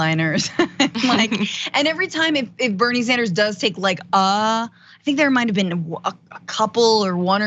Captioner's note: laugh